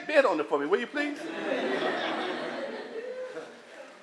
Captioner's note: laughter